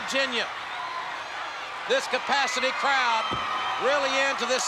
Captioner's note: spectators cheering